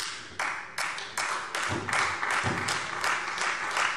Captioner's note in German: Beifall Freie Demokraten